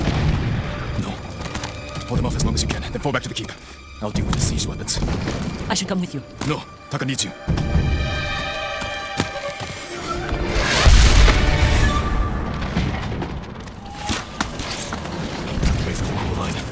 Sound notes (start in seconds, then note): 0.0 gunshots